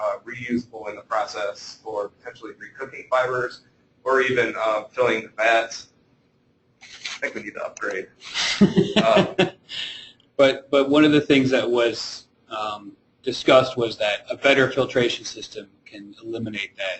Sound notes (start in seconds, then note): 8.2 laughing